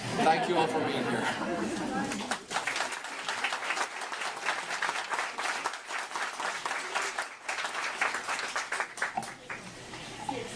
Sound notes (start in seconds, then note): 2.1 applause